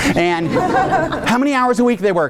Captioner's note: audience laughing